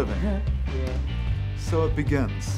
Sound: laughing

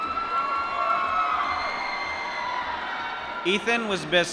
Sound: applause

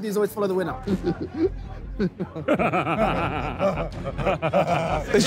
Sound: laughing maniacally

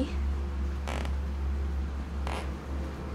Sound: creaky footsteps; ominous music

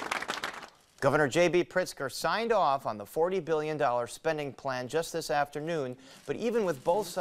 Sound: applause

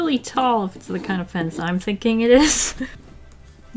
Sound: laughs

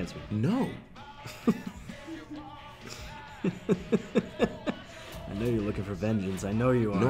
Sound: laugh

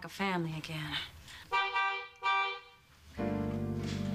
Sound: horn honks

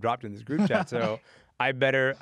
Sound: laughs

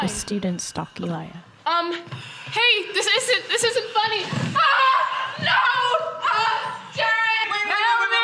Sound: screaming

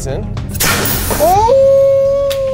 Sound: cannon hissing

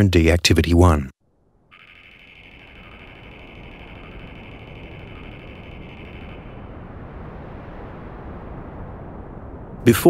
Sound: wind sounds

